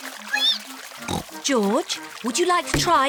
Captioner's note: squeaks